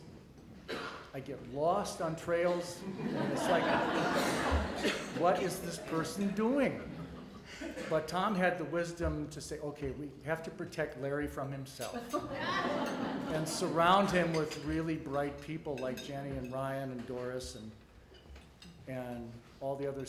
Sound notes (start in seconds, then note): 2.4 audience laughter; 12.0 audience laughter